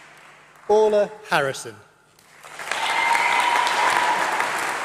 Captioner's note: applause